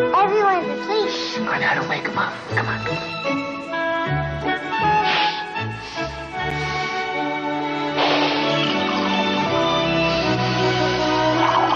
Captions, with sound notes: - Everyone's asleep. - Shh, we're gonna wake 'em up. Come on. (sniffing) (coffee burbling)